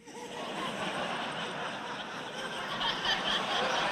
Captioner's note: audience laughter